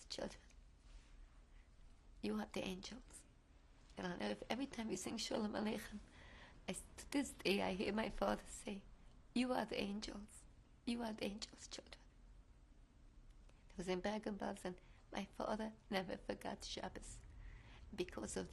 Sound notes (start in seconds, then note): 6.1 hebrew